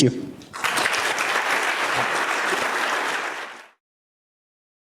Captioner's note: applause